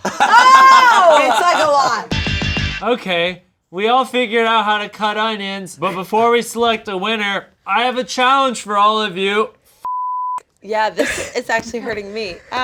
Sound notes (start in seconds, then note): 0.0 group laughing; 1.1 upbeat music; 9.8 beep